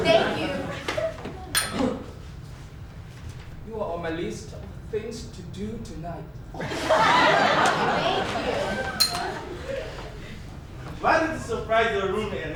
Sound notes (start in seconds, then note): 1.6 ding; 6.6 audience laughs; 9.0 ding